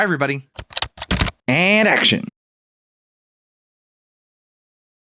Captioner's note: typing